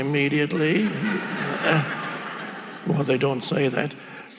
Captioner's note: audience laughing